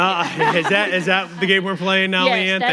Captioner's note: audience laughing